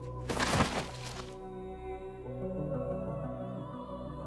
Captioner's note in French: Steven fait un bruit sourd